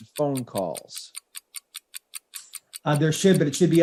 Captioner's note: clock ticking